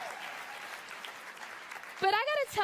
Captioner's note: applause